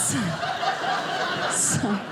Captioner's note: audience laughing